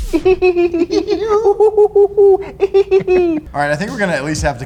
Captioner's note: giggle